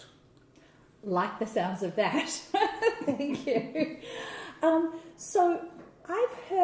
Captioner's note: laughs